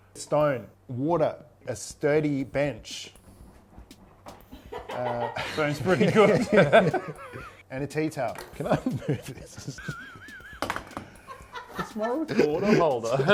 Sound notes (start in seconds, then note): 4.5 laughs